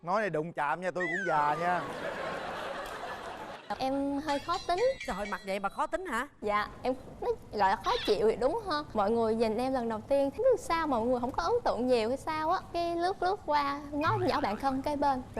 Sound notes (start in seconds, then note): 1.0 laughing